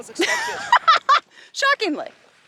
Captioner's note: laughs